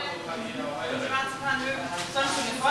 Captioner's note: soft babble of voices